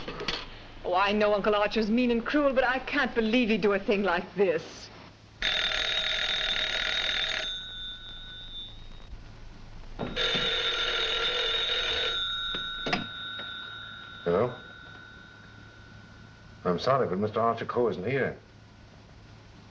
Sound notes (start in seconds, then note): 5.4 telephone ringing